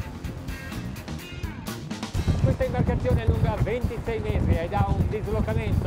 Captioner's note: foreign language